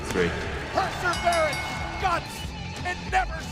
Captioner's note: bell ringing